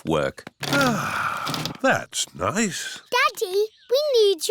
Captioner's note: sighs